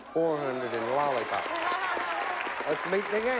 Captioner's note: applause